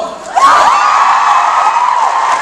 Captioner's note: audience cheers